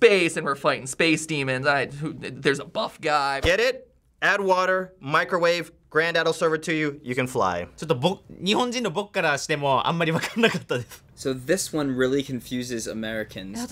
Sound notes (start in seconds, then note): 1.6 stammers